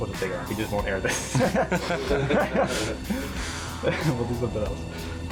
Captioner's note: men laughing